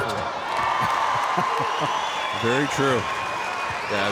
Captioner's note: chuckling